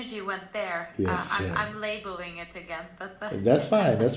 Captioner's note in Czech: smích